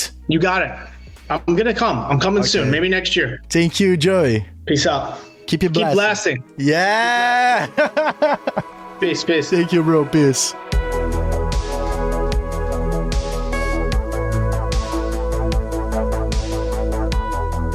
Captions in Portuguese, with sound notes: -Você conseguiu, eu irei. Estarei chegando em breve, talvez no próximo ano. Obrigado, Joe. -Fica na paz. Continue detonando! Continue detonando! Siiimmmmmmm! (kkkkkkkkkkkkkk) -Paz, paz. Obrigado, mano, paz.